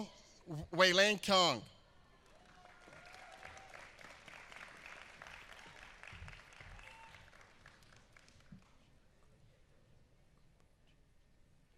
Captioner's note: applause